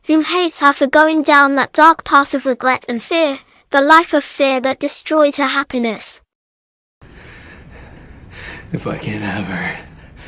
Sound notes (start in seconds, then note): none